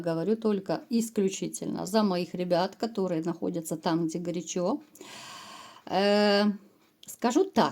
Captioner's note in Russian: тяжело вздыхает